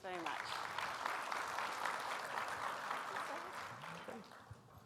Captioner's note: audience applauds